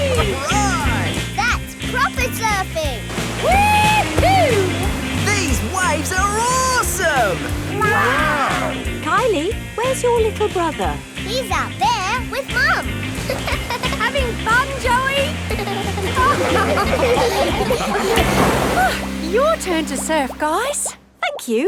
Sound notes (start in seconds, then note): 13.1 giggles; 16.2 laughing